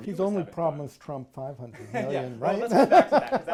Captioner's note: laughs